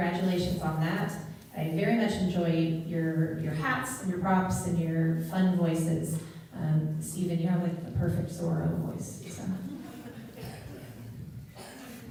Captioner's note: laughter